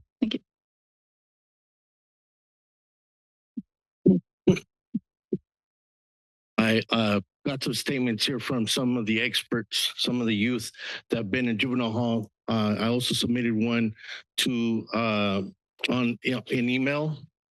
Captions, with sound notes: Thank you. [silence] [micrphone noise] - I got some statements here from some of the experts some of the youth that have been in juvenile hall. I also submitted one to an email.